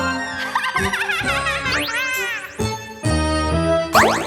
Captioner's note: laughing